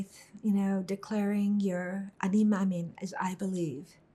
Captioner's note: hebrew